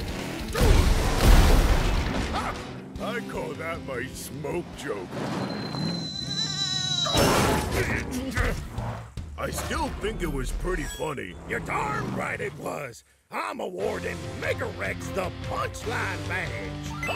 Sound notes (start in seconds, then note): 4.9 object falling